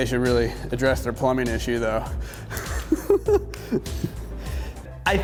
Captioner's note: laughs